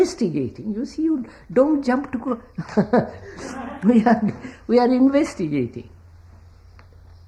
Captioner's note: laughs